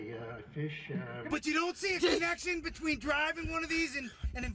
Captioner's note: voiceover